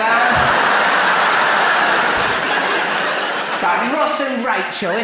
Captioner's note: audience laughs